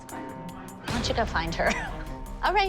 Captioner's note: chuckles